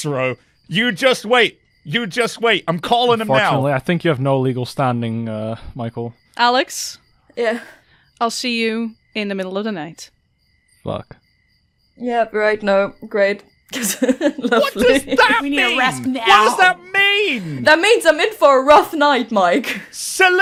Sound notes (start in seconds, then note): 13.8 laughing